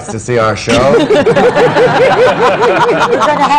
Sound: laughter

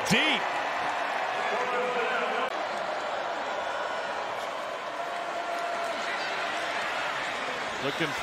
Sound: crowd

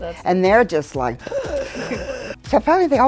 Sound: gasps loudly

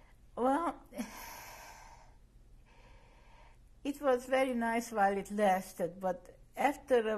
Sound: sighs

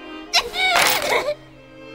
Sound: crying

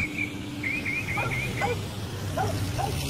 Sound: dog barking

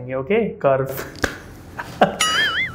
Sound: laughs

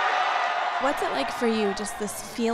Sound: cheering

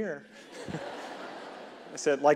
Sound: audience laughing

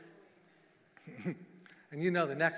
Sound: giggling

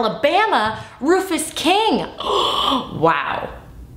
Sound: gasping

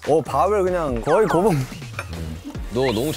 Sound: haha

